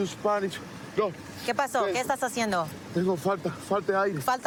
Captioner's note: speaking spanish